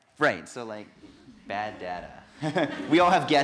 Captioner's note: laughter